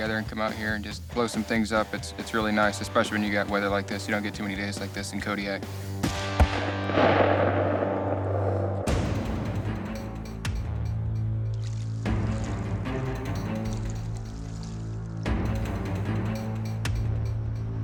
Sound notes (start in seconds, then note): 6.2 booming; 8.9 dramatic music